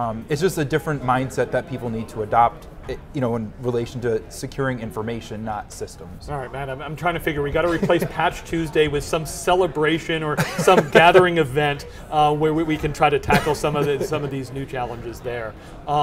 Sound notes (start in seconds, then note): 10.4 laughs